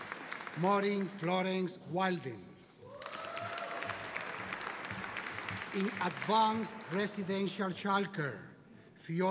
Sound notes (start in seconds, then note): 2.9 audience applauding